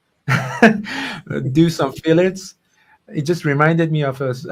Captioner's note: laughing